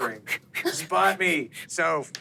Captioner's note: imitates air whooshing